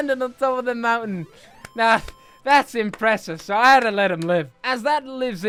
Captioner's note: clap clap clap